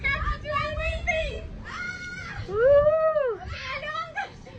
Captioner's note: mild distressed yelling